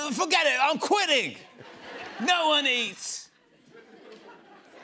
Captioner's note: laughter